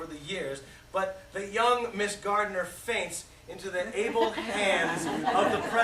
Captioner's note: laughter